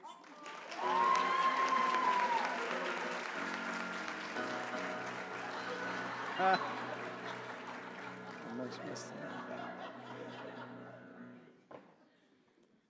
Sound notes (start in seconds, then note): 0.0 applause; 5.6 laughter; 6.4 applause